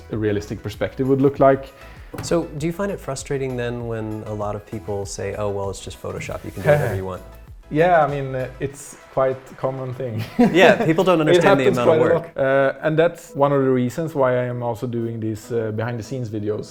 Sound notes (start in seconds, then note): 11.3 laughing